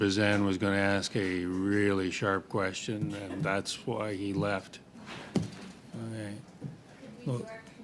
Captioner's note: laughter